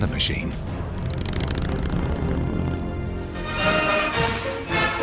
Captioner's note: engine roaring; triumphant music